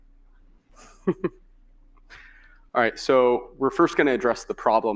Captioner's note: chuckling